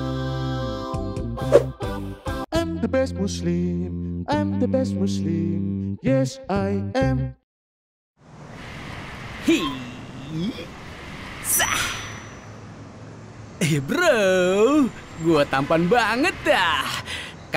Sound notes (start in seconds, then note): none